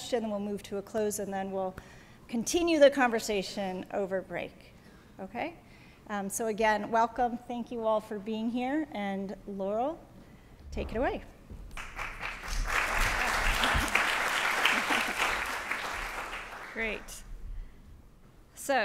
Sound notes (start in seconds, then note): 11.7 applause